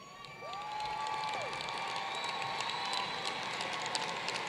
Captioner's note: applause